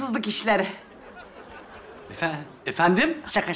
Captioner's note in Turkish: Gülme efekti